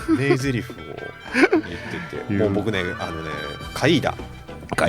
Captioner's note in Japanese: 笑い